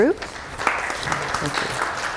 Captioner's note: applause